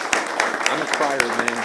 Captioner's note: applause